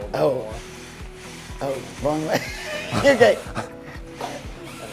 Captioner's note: laughs